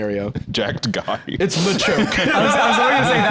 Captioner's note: laughs